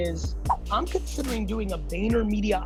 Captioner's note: air whooshing